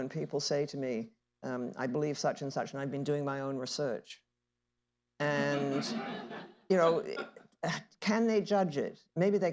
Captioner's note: laughter